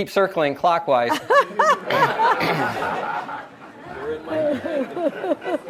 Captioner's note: audience laughs